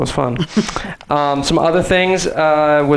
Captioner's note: chuckles